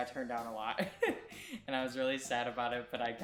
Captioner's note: laughing